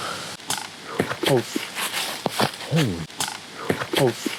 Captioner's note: twigs cracking